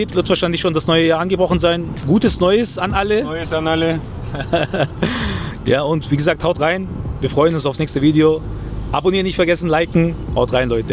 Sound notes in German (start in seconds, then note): 4.2 gelächter